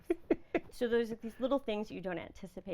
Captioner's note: laughing